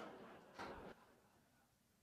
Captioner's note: laughter